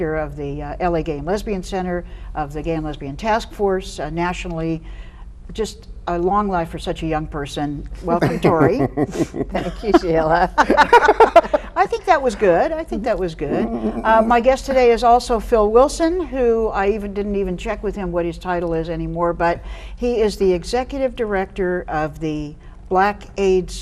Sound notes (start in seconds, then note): 8.1 guests laughing; 13.4 laughs